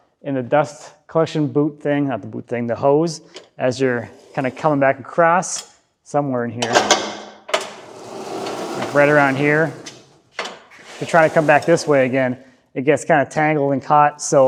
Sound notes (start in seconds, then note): 7.5 metal clanking